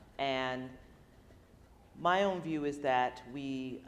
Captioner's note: none